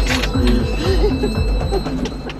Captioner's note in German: Leises Lachen